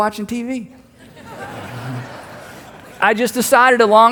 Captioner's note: congregation laughs